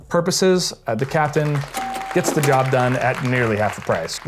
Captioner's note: people clapping